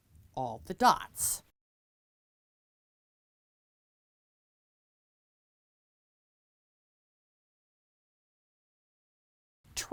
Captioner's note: no Sound Present